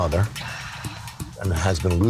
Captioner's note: sighing